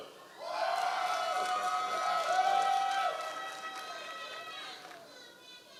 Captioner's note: members of the audience cheering